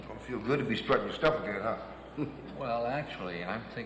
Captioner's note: chuckles